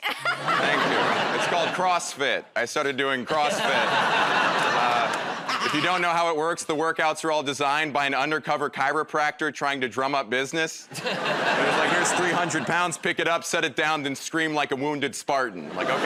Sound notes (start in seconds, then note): 0.1 laughs; 3.3 laughter